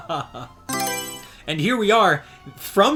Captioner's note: Mario Selection Sound